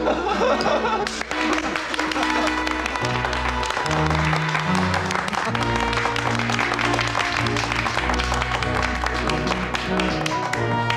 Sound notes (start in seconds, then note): 0.0 laughs; 1.3 applause